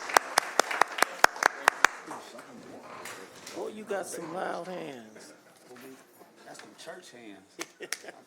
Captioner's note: applause